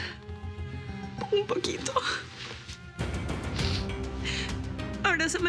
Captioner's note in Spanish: Sollozos